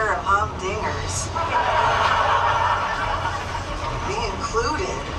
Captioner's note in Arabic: الناس يضحكون